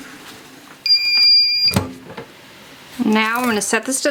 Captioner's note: machine beeps